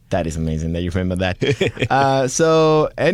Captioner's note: laughter